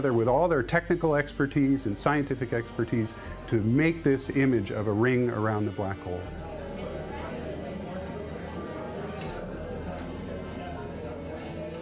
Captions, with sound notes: with all their technical expertise and scientific expertise to make this image of a ring around the black hole. (people chattering)